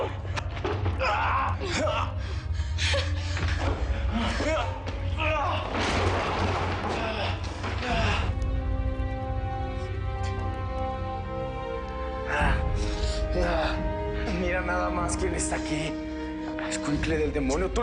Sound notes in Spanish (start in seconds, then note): 5.1 Gemidos